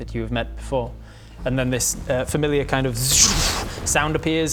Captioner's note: zrrrphh